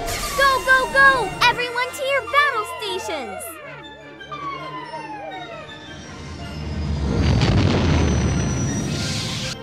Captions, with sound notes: Go, go, go. Everyone's here. Battle stations! [SIRENS SOUNDING]